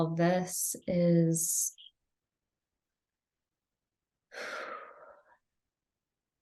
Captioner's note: sighs